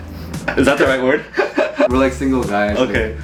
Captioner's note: laughing